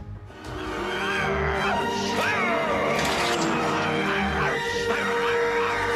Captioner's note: thrilling music; Dracula grunting